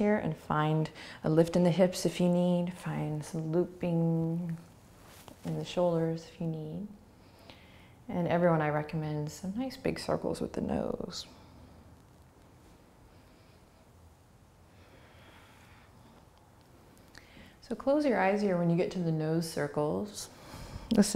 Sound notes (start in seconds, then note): 13.3 breathing